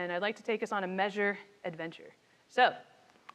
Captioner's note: speaks faintly